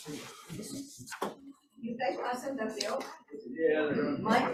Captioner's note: crowd chattering